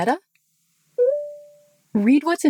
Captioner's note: Meta beeps